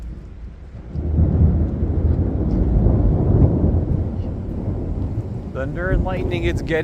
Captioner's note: loud thunder